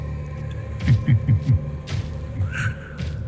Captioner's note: cackles